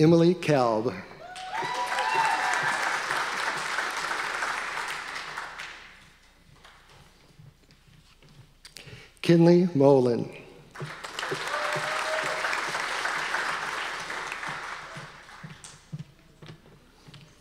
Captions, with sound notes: Emily Kelb. (audience applause) Kinley Mowlan. (audience applause)